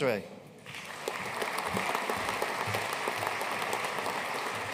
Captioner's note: audience applauding